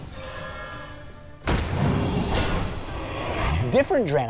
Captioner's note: thrum; crash, clatter